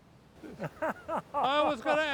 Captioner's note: laughs